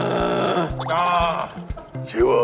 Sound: growling from the fullness

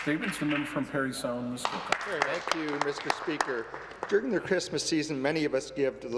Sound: applause

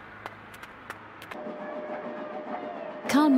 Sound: train rumbling

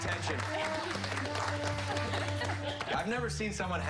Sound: applause

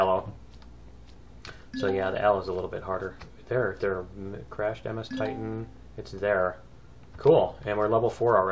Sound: ding; ding

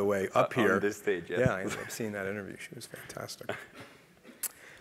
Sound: laugh

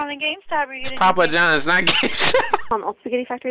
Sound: laughter

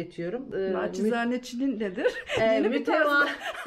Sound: laughter

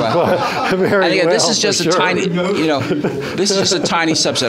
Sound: audience laughs

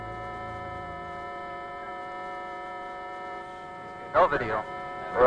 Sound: signal beeping

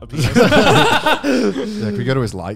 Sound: laughing

